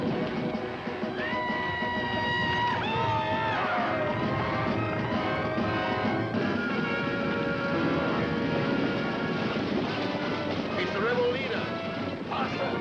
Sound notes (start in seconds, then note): 1.0 yelling